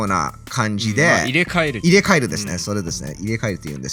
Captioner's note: japanese noises